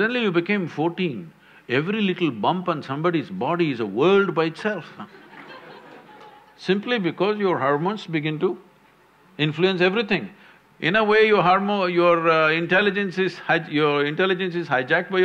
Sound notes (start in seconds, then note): 5.0 few laugh